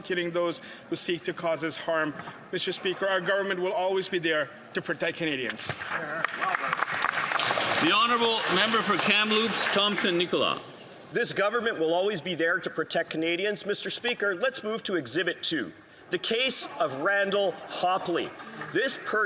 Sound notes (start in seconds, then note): 11.2 some Applause